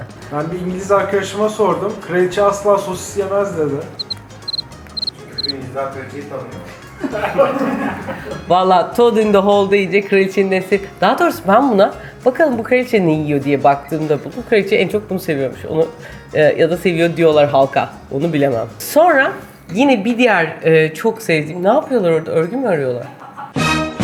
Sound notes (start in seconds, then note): 7.0 laughs; 23.0 laughs